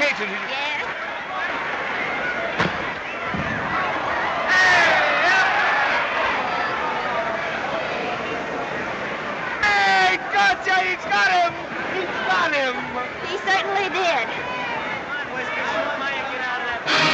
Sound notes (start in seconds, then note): 4.1 indistinct chatter; 14.4 indistinct chatter; 16.8 instrumental music